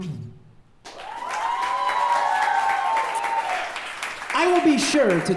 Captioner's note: audience cheering